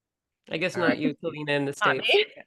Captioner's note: laughs